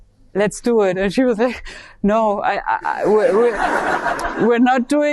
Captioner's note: audience laughing